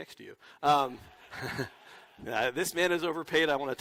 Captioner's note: laughter